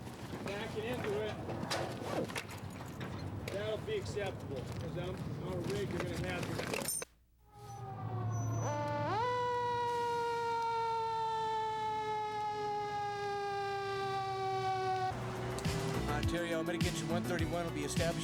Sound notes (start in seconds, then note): 7.5 siren wailing